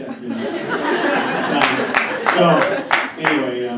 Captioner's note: laughter